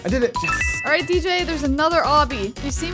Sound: electronic beeps

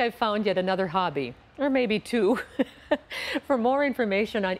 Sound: laughs

